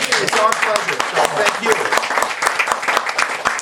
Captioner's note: students clapping